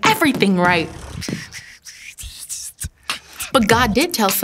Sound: drumroll beatbox transition

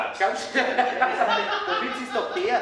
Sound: laughter

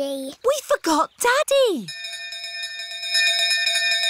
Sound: bell continues dinging

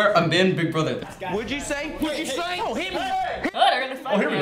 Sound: yelling

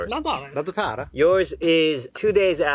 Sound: speaking in Korean

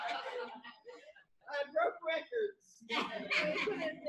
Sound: laughter; laughter

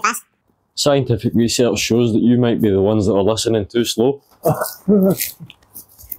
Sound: Bear laughs

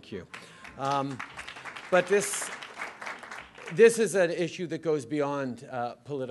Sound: applause

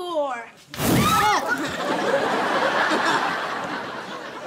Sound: screams

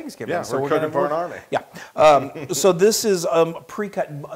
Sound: laugh

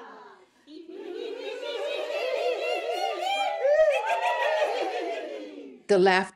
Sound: group chorusing rising and falling pitches of laughter

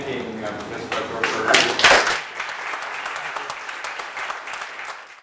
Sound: applause

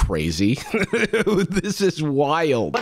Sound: laughs

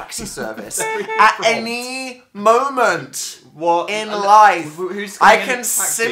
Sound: through laughter; car horn honk sound effect; incoherent stuttering

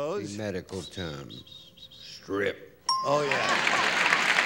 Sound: ding

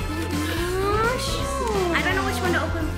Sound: gasping

